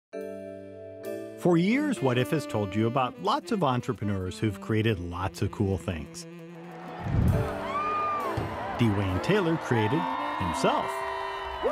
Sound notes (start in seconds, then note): 0.2 soft gentle music; 6.6 audience cheers